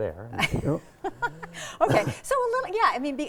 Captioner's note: laughing